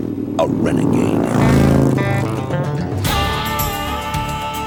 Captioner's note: motorcycle roars; theme music